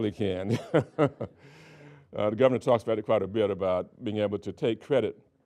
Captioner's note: laughing